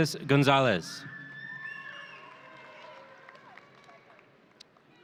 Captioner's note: audience cheering